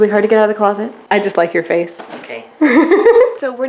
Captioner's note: laughing